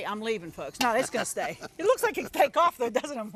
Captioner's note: laughing